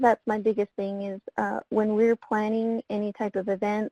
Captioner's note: voice muffled